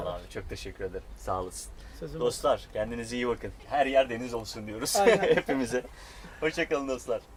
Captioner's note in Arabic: يضحك